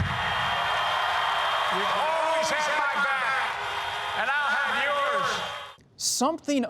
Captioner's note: cheers